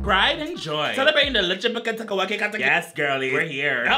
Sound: speaks gibberish

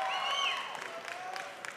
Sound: audience cheering

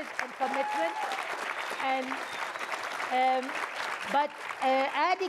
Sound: audience applauding

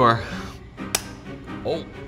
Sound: knife thuds

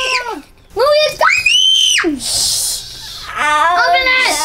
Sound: screaming; screams

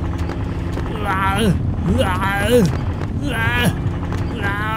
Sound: screaming in fear

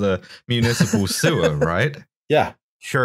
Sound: laughter

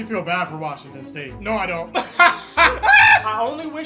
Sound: laughs

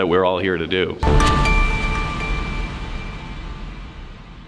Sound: chiming bells

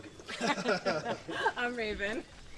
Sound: laughter

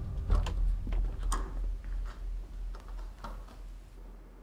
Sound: door clatters

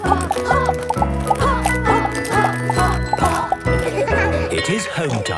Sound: laughter

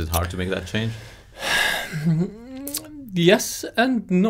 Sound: sighing

